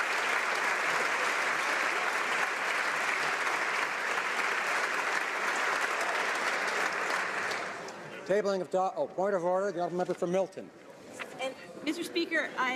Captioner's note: applause